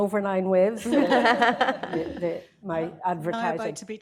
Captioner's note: laughter